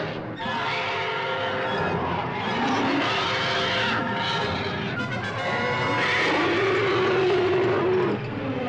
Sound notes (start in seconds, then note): 2.8 roaring